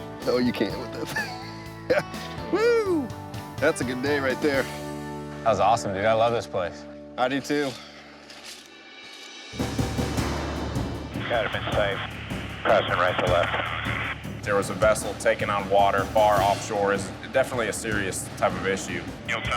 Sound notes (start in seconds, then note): 0.8 laughs; 9.3 dramatic music